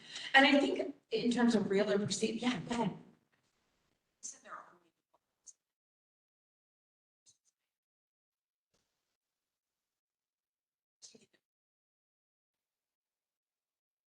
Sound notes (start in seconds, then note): 7.8 audio cut